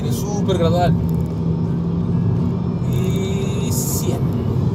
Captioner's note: engine roaring; squealing tyres